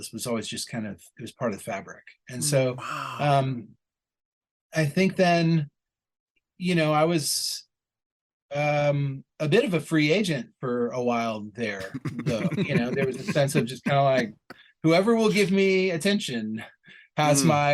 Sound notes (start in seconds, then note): 11.8 laughter